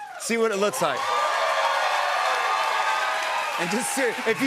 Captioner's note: cheers and applause